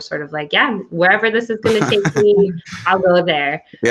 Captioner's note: laughs